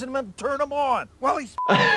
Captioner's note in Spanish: se ríe